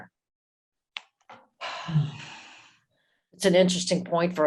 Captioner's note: sighs